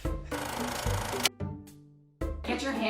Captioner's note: camera whirring